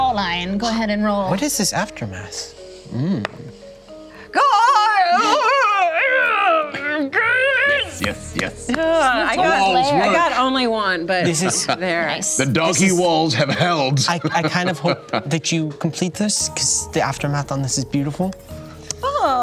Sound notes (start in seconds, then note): 4.4 yells incoherently